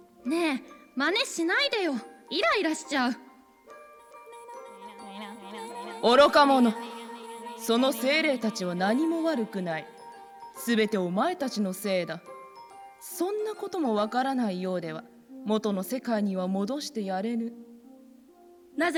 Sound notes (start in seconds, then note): 4.4 echoing "irritating, irritating"